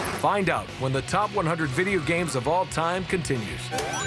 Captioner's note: gunfire